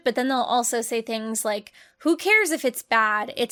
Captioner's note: none